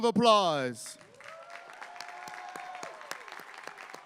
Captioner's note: applause